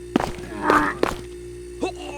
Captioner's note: vomiting sounds